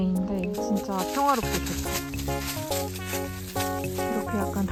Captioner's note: Sound of Chopper scattering fallen leaves